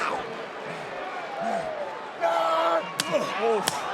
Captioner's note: audience cheering